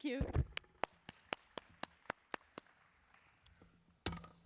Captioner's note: applause